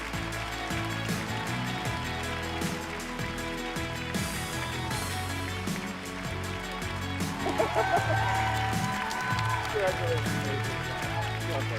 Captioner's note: cheers and applause